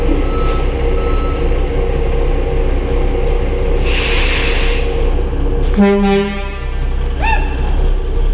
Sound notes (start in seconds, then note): 5.6 horn